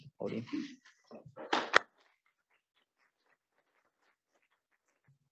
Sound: audience applauding

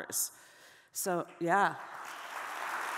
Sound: audience applauding

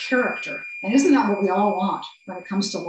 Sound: timer beeps

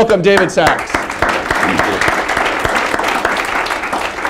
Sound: applause

